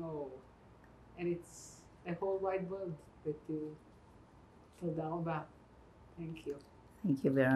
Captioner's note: hebrew